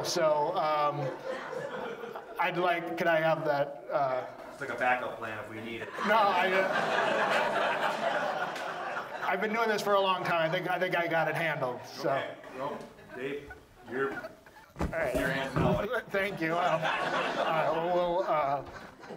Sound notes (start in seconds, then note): 5.7 audience laughs; 16.8 audience laughs